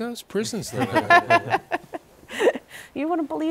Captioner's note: laughter